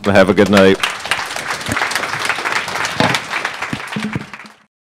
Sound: audience clapping

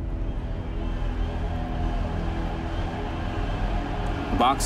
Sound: crowd cheering

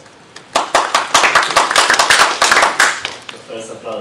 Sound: claps

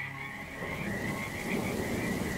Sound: rain pattering

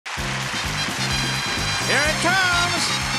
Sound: applause; theme music

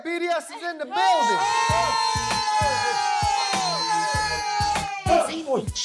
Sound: everyone cheering

